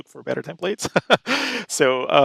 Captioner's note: laughs